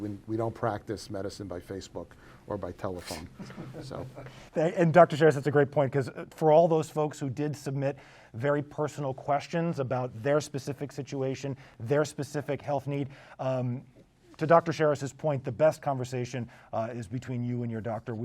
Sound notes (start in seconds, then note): 3.1 laughs